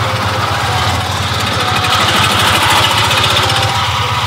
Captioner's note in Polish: dźwięk jadącego samochodu